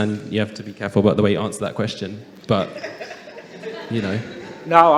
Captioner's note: some laughter